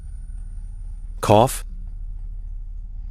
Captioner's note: cough